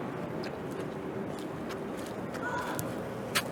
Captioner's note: footsteps approaching